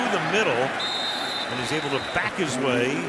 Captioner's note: whistle